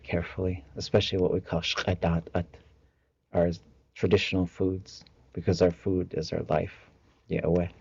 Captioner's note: tlingit language